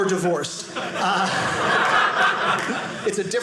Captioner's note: audience laughing